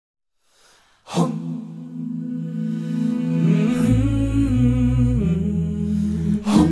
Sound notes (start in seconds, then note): 1.2 vocal "Hmmm"